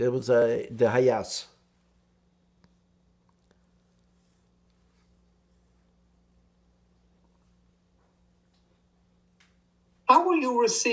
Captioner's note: pauses 8 seconds